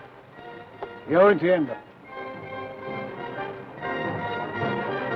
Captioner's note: speaks foreign language